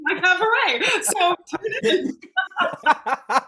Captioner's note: laughing